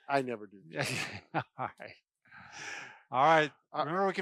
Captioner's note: laughs